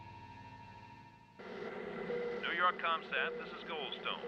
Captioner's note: man Over Radio